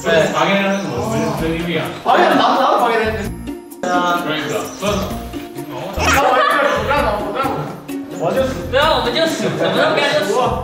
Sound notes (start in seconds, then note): 5.9 hahahahaha